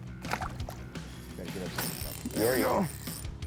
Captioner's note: water splashes